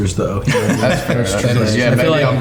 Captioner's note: all laughing